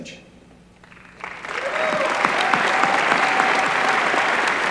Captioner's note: applause